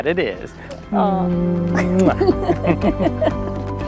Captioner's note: couple giggles; kiss smacks